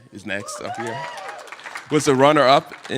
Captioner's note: applause